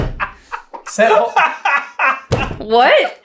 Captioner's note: hahahahaha